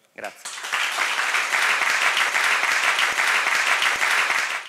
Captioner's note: applause